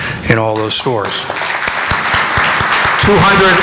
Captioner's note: applause